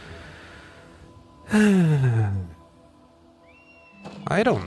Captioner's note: sigh